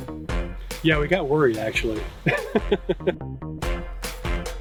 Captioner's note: laughing